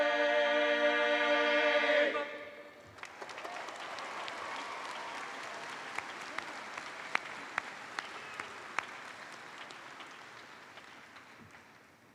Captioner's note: applause